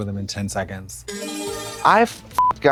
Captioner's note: bright chime; beep